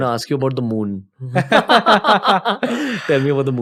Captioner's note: laughter